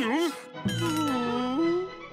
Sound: groaning

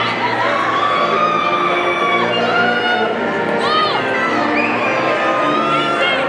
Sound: audience member screaming

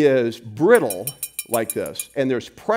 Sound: metal hits against glass

